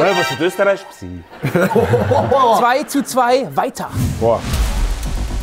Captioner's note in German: Lachen; Spannungsvolle Klänge